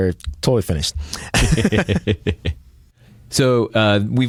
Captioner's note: laughter